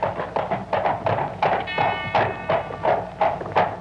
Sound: bell ringing

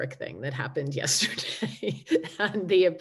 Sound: laughing

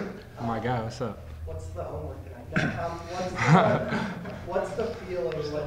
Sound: laughs

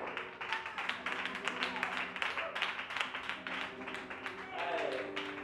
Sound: clapping

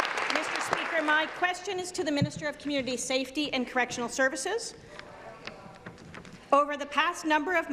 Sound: applause

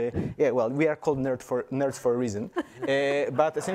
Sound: everyone laughs

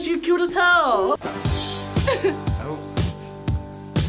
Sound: laughs

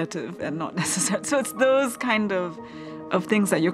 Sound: laugh

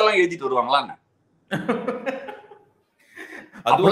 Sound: laughs

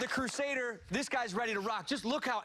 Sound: cheers and applause

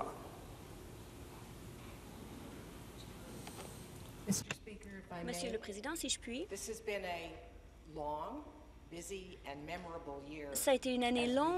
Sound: speaking in French

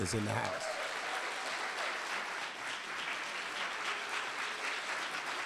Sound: audience applauding

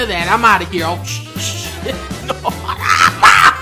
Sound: laughing

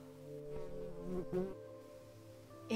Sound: buzz

